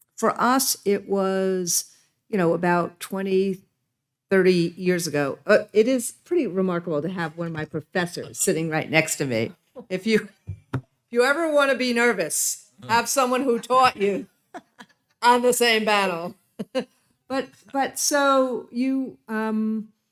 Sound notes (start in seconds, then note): 10.4 laughing; 14.5 laughs; 17.4 laughing